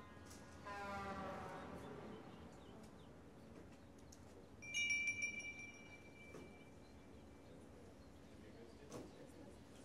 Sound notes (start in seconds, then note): 0.6 truck horn blaring distantly; 7.3 bell jingling